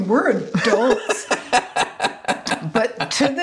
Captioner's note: laughs